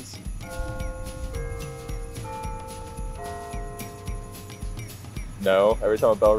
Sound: Bell Tower rings

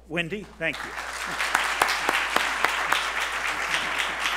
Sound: applause

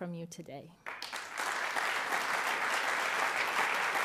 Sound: applauding

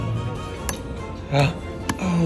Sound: spoon bangs

